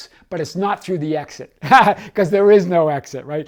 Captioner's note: laughs